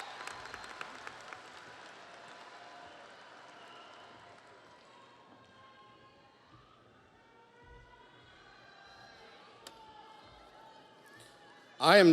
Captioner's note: audience applauds; audience cheers